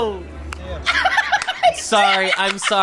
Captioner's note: laughs